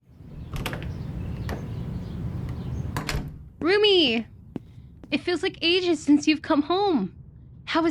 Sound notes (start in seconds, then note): 0.0 hurried Footsteps; 0.5 door Opening/Closes